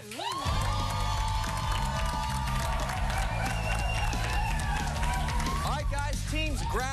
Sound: cheers and applause

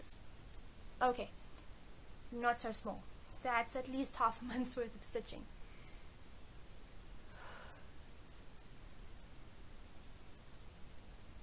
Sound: stares at camera and sighs

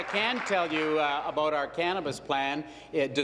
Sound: applause

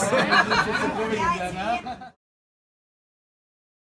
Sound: people laugh

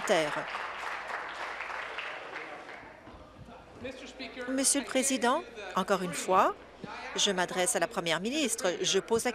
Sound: applause

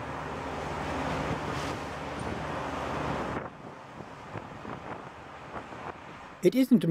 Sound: ocean waves and wind

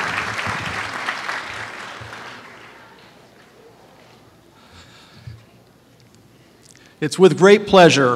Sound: applause

